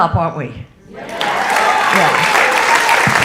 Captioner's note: audience applauds